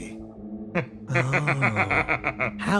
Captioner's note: laugh